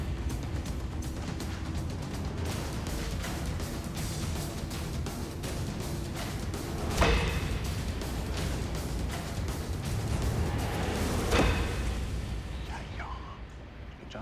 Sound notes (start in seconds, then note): 12.1 whispering